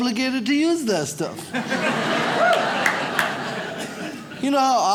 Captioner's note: audience laughs